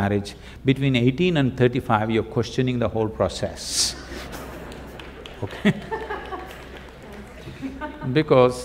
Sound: laughter

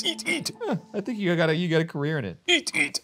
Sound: laughs

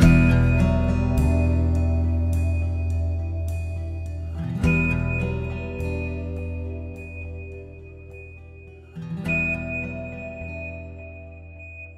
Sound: Quindar beeps fade in and back out

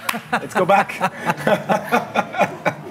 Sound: claps hands; laughs

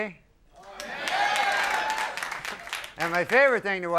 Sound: audience cheers

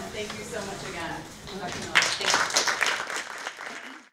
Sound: audience applauds

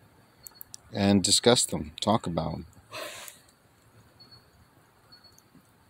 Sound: yawn

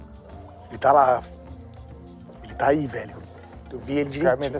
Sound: speaking in Portuguese

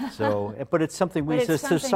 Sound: laughter

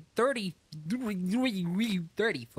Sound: robotic Stuttering

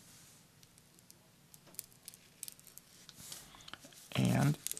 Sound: nail scraping

